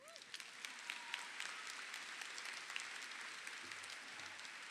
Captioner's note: audience cheering